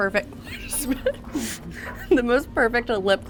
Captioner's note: chuckling